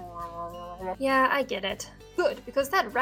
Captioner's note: grumble